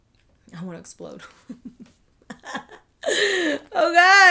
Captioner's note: laughing